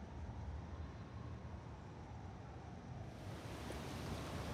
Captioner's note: distant sirens